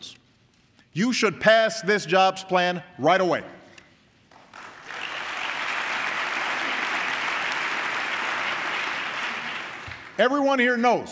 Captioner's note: applause